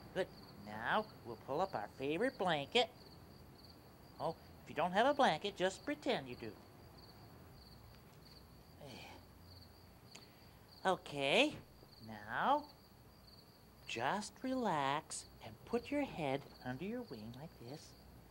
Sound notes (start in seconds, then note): 8.8 sighs